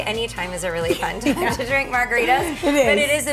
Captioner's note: laughs